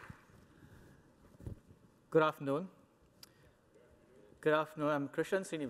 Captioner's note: applause